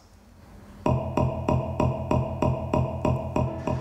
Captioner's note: rhythmic tapping